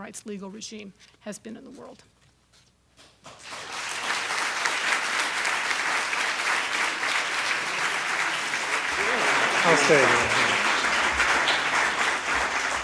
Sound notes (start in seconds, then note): 3.3 audience applauds; 9.0 applause covers moderator's words